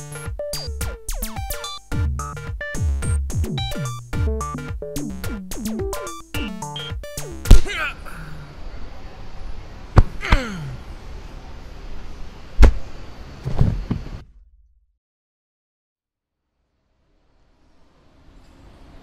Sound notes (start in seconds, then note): 7.6 grunt